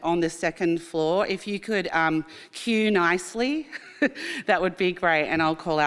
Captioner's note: chuckles